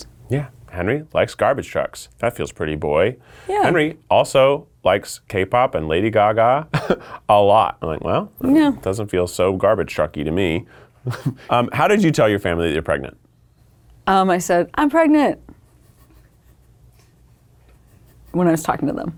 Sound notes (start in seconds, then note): 11.0 laughing